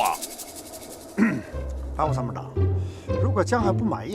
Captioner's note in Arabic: سعال